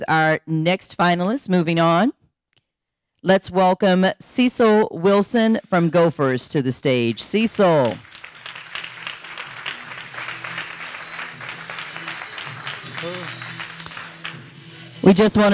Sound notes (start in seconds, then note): 9.9 audience applauding